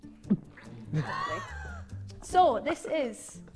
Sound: Vikram laughing

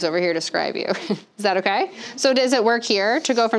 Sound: chuckling

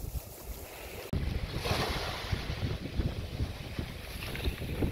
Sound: wave sounds

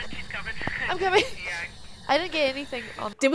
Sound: laugh

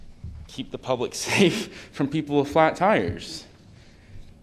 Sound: laughter

